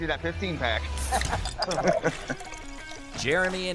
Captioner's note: laughs